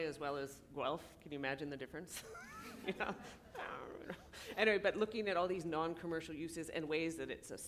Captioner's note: laughter